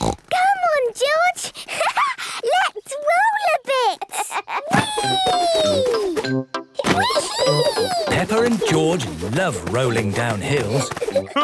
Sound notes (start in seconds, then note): 0.0 snorts; 3.9 laughs